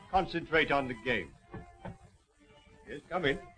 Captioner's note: knocking on door